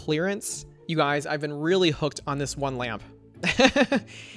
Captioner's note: laughs